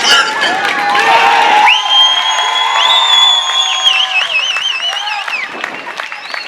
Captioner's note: cheers